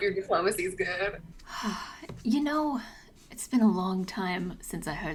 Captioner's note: appreciative sigh